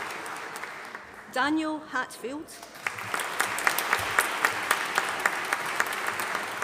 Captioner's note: audience applauding